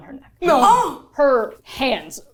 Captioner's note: gasping